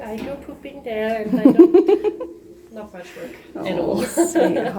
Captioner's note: laughing